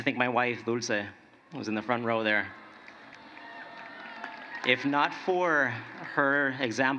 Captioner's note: cheering and applause